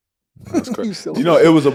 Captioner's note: Cuttino laughing